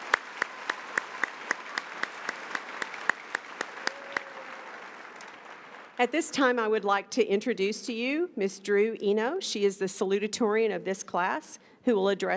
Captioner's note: applause